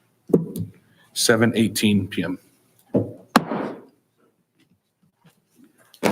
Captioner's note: gavel pounds